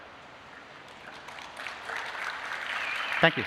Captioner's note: applause